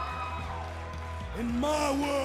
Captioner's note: crowd cheering